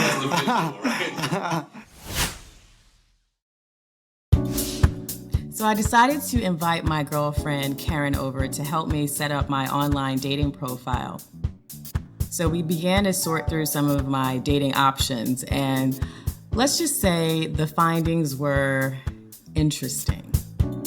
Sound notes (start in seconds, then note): 1.8 swishing; 4.6 light jazz music